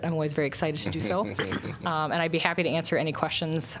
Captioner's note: laughter